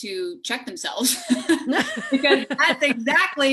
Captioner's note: laughs